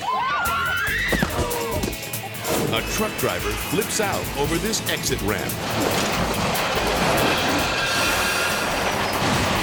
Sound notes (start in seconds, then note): 0.0 people scream; 1.7 body thumps; 5.7 truck banging and crashing